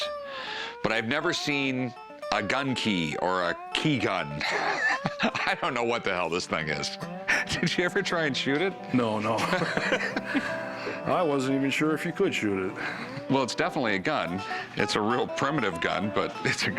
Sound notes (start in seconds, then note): 4.2 laughs; 9.2 Rick laughs